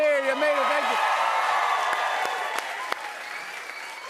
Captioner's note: cheers and applause